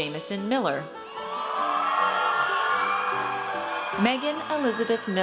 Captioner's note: audience cheers